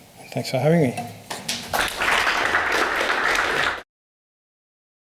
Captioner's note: audience clapping